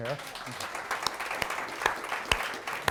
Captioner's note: applause